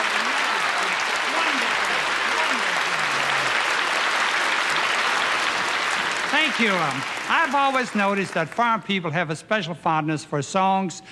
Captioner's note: applause